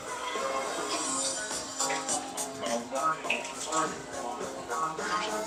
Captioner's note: noise of water